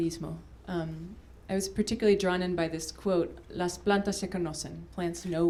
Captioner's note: spanish